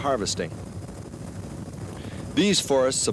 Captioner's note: helicopter blades whirring